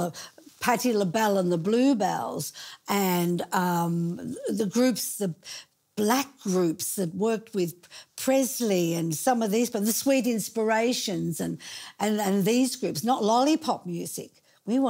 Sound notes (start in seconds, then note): none